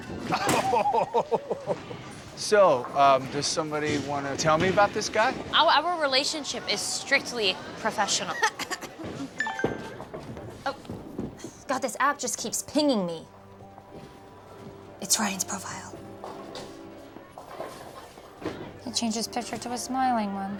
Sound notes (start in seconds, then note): 8.2 laughs; 9.4 phone chimes